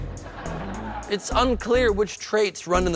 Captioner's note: laughing